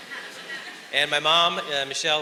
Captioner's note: audience laughs